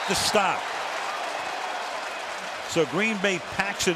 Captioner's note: cheering